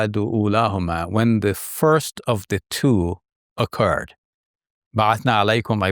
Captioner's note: speaks in Arabic